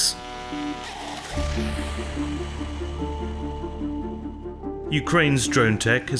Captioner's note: drone whooshes